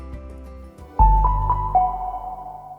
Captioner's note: logo chiming